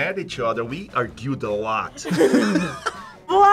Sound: laugh

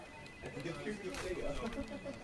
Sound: telephone rings; office staff talking

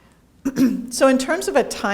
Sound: clears throat

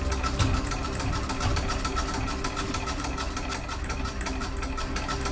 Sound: antique sewing machine whirring

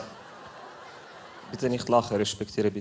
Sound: laughter

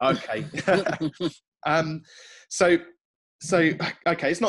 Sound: laughing

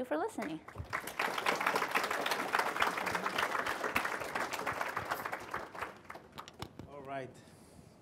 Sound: applause

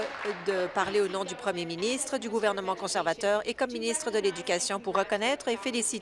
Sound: applause

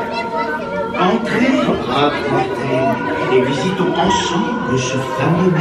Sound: speaking in French

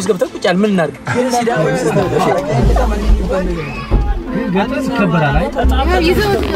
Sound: crowd noise

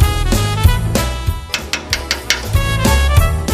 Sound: knocking on the door

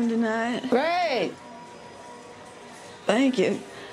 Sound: couple talking

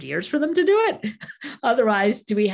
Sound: laughing

